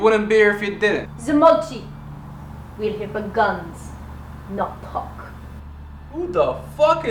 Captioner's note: speaks Russian